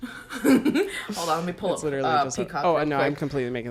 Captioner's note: laughs